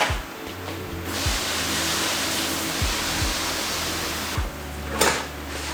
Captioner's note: garden hose noises